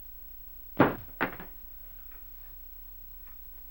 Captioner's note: thud